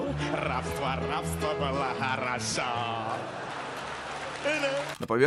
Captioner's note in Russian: аплодисменты